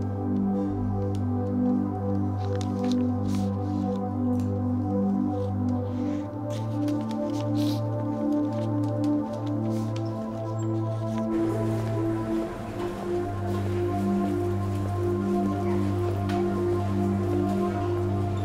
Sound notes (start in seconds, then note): 7.8 sniffling; 11.7 soft music